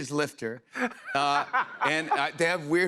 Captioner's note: laughter